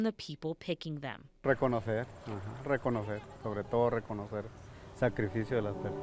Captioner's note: speaking in foreign language; uplifting music